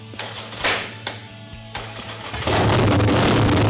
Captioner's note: engine roaring